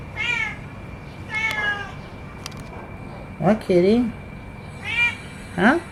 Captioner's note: cat continues too meow loudly